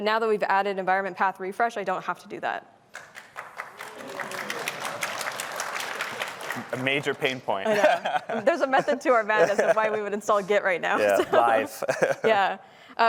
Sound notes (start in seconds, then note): 2.9 applause